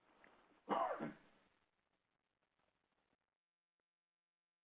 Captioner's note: coughing